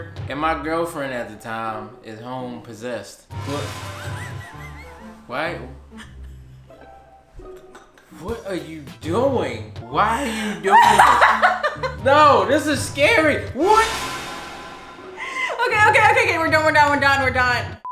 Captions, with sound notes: and my girlfriend at the time is home possessed. Why? What are you doing? Why are you doing this? (laughs) No, this is scary! What?! - Okay, okay, okay. We're done, we're done, we're done, we're done.